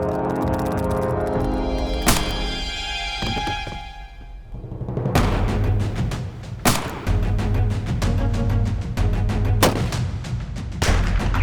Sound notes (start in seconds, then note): 2.0 gun shot; 6.6 gun shots